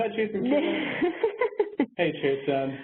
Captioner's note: laughs